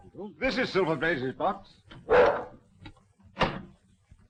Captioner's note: dog barking